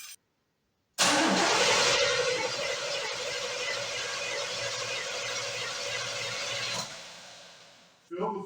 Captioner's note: engine cranking